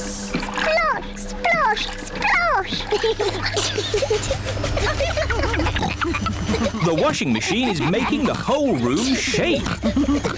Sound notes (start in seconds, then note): 2.7 giggling; 5.3 rumbling